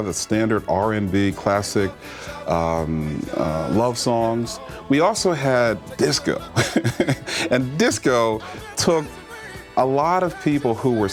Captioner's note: laughter